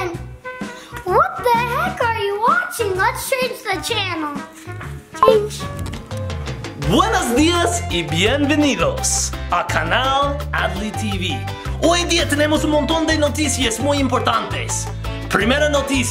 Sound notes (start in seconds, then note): 5.2 remote beeping; 7.1 dad speaking Spanish